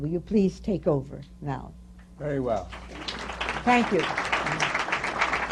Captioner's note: applause